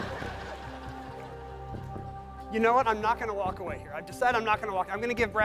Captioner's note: laughter